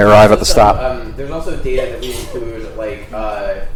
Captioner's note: sneeze